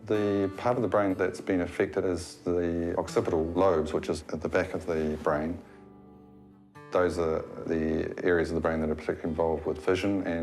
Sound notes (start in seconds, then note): none